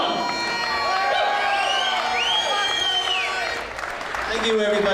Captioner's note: cheering